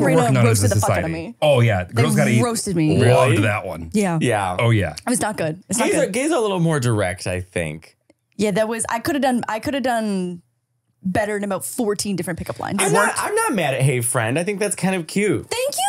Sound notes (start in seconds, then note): 2.9 laughing